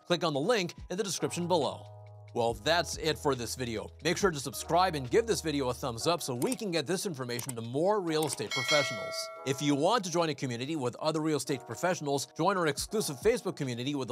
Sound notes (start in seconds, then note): 8.4 bell dinging